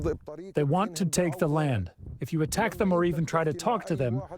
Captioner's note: through translator